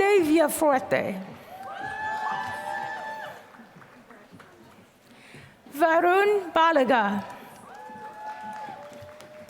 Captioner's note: applause